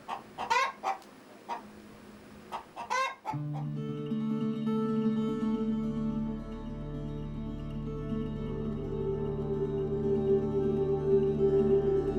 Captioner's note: chicken Clucking